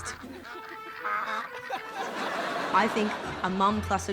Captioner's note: ducks quack